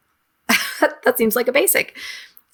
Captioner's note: chuckles